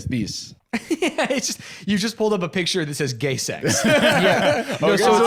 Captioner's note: laughs